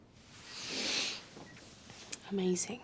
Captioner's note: Ashley snivels